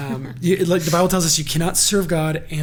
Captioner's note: laughs